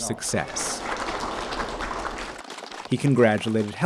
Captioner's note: crowd applauding